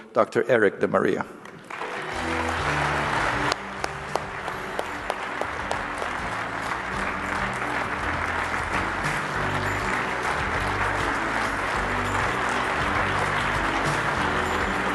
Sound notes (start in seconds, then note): 1.4 applause